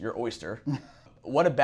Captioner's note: laughs